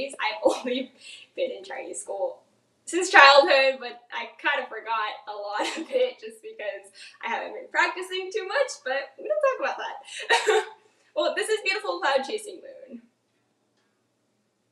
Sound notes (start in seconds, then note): 10.7 laughs